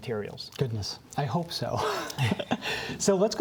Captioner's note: laughs